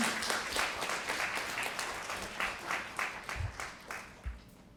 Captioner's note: applause